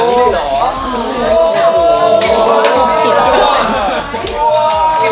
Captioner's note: enthusiastically cheering continues